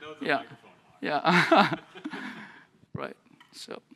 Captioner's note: laughter